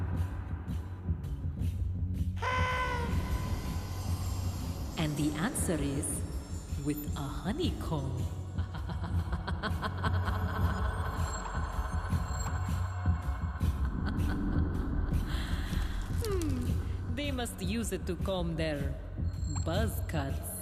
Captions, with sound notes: AND THE ANSWER IS... ( laughing ) HMM, THEY MUST USE IT TO COMB THEIR "BUZZ CUTS".